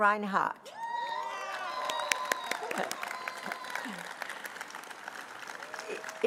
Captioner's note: applause